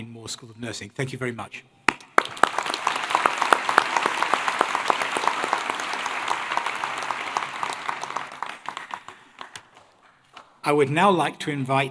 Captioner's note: applause